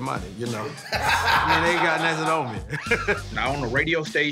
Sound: laughs

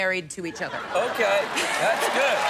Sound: laughs

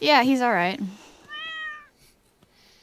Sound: meows

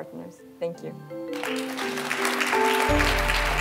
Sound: applause

